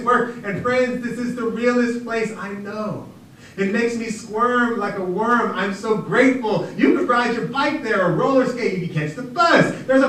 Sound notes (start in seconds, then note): none